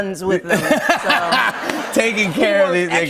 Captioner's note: laughter